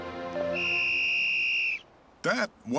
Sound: whistle blowing

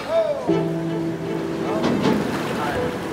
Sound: hooks clanging; bumper snapping; thrilling music

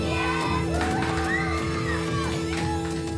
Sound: cheering

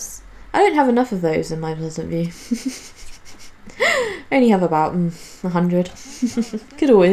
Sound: laughs

